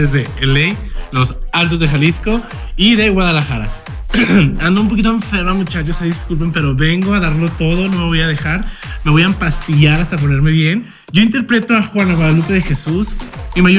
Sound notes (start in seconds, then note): 3.6 coughs in fierce